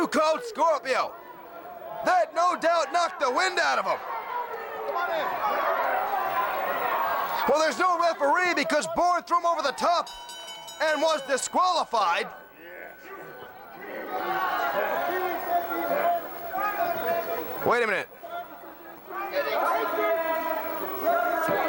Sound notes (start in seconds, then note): 6.2 crowd chatter; 12.0 bell ringing; 14.7 crowd chatter